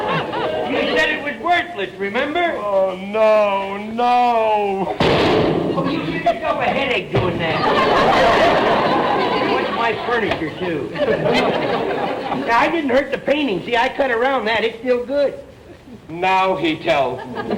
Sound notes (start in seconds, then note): 0.0 audience laughter; 5.0 gunshot; 7.4 audience laughter